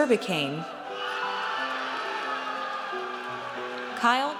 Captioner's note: audience cheers